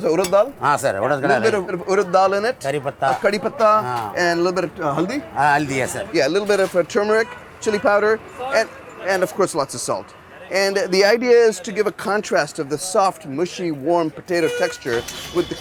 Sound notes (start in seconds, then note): 0.1 both speaking in Hindi; 3.1 both speaking in Hindi; 5.3 speaking in Hindi